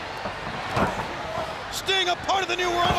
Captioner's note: crowd cheering; blows thudding